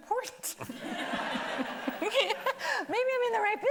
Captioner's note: everybody laughing